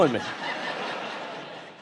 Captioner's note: audience laughing